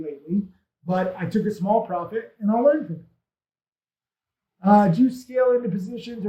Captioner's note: speaks faintly